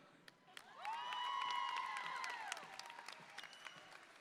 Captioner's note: audience cheers